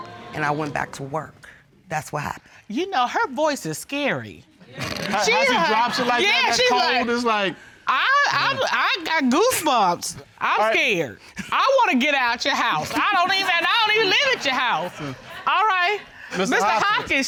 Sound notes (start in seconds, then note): 7.8 stammers